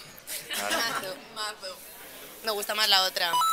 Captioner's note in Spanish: risas